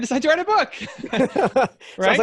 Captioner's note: laughing